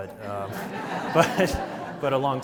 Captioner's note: audience laughs